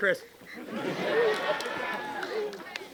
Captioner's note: laughter